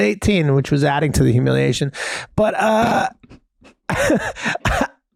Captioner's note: chuckles